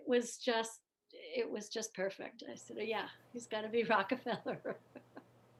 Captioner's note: laughter